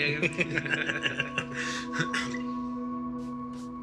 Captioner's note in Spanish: Risas